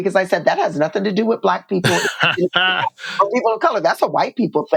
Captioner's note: laughter